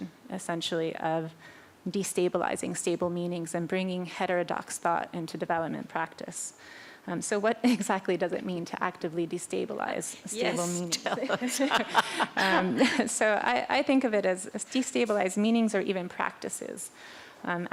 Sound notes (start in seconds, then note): 10.9 laughter